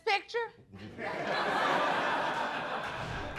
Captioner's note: audience laughs